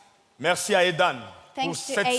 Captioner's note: speaking in French